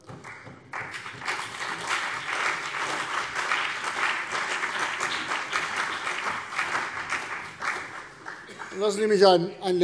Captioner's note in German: Beifall CDU und BÜNDNIS 90/DIE GRÜNEN